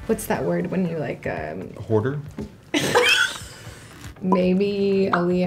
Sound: laughter

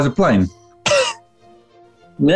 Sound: sniggering

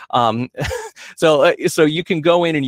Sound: chuckles

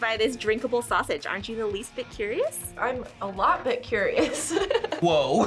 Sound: laughs

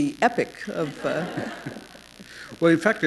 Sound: laughter

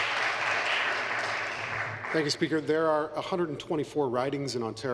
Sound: applause

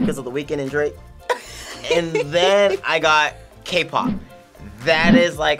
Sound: React laughs

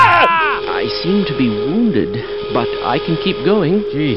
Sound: big scary klaxon

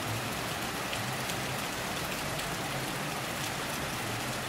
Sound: rain Sounds

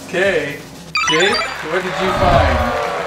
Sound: high-pitched beeps

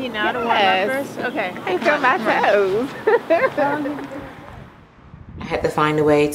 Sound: laughs

